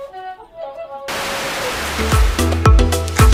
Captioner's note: static; upbeat electronic music